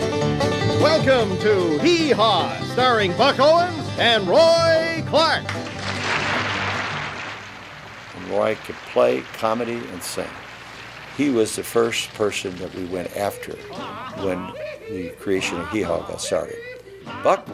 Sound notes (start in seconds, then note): 5.4 applause